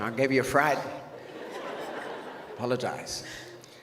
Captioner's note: audience laughs